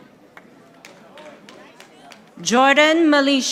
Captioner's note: audience applauding